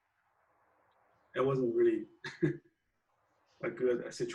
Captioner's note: laughs